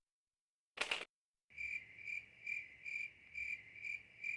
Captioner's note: crickets chirping